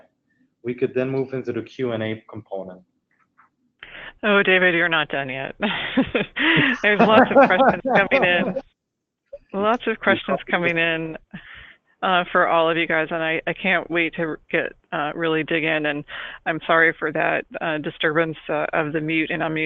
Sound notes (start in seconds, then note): 5.7 laughs; 6.4 laughing